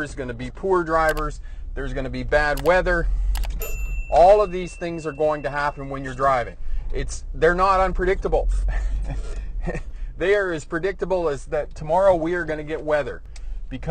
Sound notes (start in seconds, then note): 9.6 chuckles